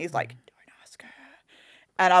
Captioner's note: whispers